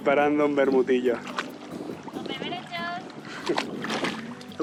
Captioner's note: laughs